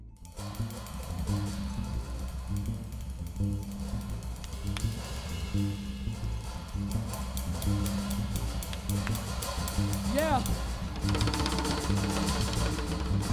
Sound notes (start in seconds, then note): 4.4 claps